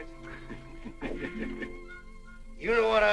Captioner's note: chuckling